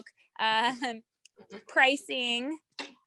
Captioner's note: chuckles